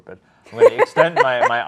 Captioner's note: laughs